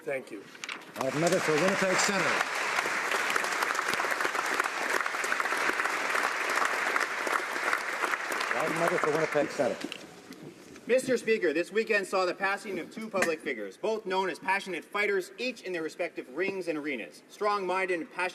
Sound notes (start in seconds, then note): 3.7 applause